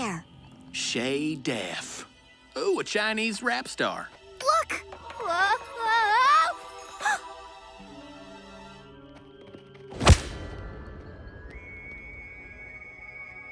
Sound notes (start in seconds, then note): 6.8 gasps